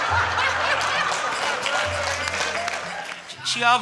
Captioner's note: all laughing and applauding